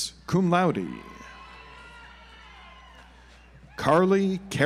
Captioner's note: audience applauds